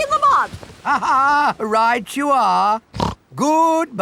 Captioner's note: laughs; snorts